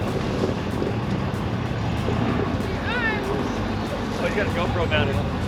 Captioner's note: engine revving